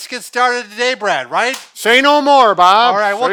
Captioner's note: clapping